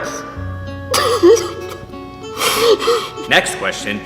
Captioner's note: crying